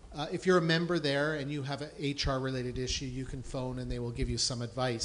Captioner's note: none